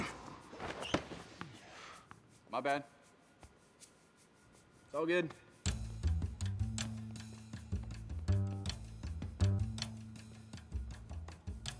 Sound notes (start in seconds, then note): 0.0 racket smacking; 3.3 hand patting